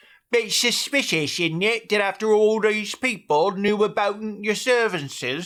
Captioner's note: perfect british accent